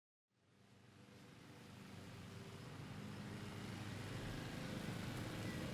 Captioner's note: lawn mower rattling